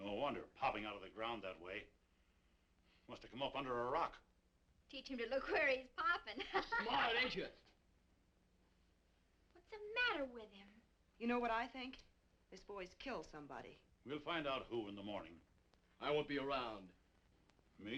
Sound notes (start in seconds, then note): 6.3 Meagan laughing